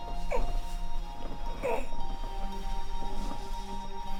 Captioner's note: Isaac groaning